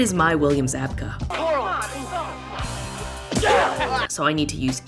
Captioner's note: Karate Kid fighting noises